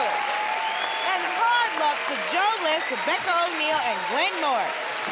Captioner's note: cheering and applause; whistling